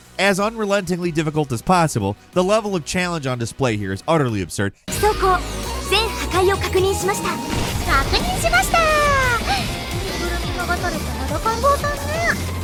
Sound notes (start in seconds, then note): 4.9 speaking foreign language; 7.1 explosions booming; 9.7 energetic music